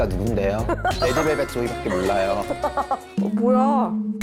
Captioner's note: in a flowery voice